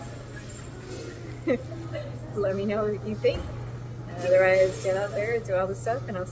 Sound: laughs

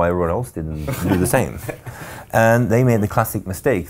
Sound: laughing

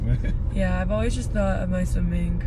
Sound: laugh

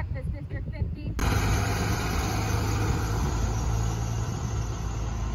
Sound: bus engine roaring

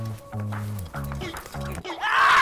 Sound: clap

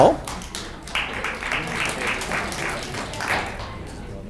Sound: audience clapping

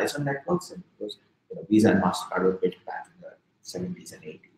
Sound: speaking softly

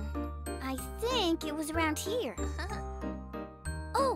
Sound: giggles

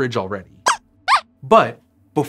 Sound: squeaks squeaks

